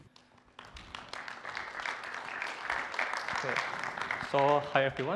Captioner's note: applause